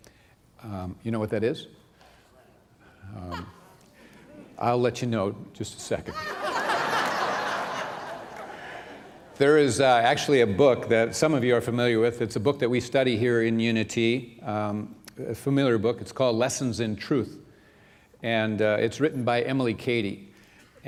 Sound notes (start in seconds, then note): 6.1 laughter